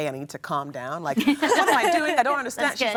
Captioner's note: laughing